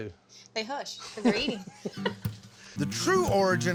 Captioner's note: laughter